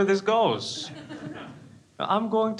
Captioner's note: crowd laughs